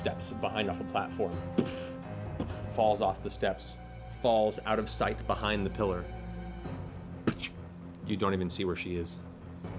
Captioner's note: impact noises